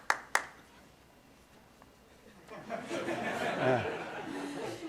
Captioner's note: applause